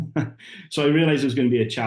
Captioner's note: laughing